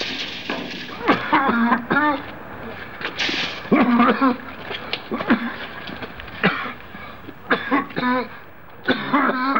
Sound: coughing and spluttering

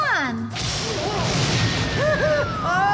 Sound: thunderclap!

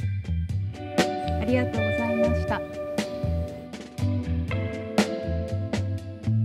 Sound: poppy music continues; speaking in Japanese; poppy music continues

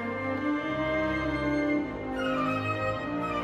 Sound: none

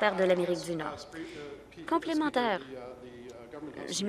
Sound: applause

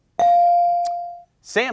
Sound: bell ringing

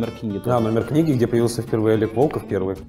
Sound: voice-over

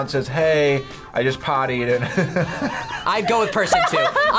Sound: laughs

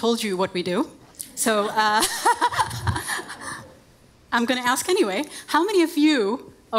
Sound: all laugh

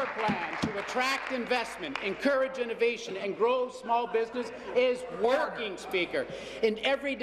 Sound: applause

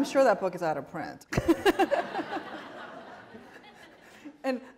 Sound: laughter

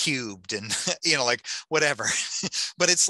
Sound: laughing

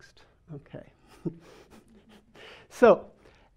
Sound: man laughing

